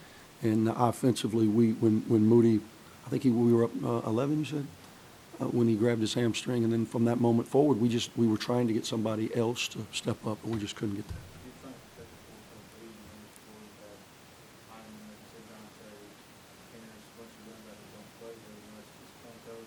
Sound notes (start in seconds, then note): 11.7 voiceover